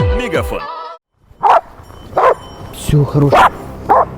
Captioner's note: dog barking